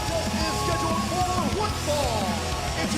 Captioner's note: bell ringing